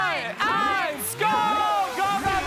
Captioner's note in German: Jubel